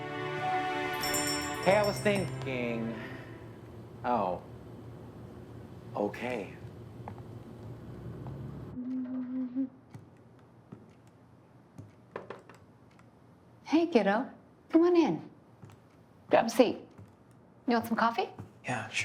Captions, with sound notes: (bell jingling) (bell jingling) - Hey, I was thinking... Oh, okay. - Hey kiddo, come on in. Grab a seat. You want some coffee?